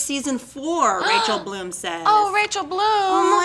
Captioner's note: gasping